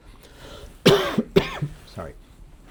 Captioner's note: lecturer coughing